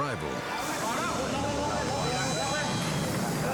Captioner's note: police shouting in foreign language; dramatic music continues